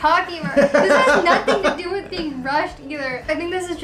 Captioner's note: laughs